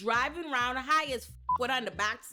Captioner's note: beep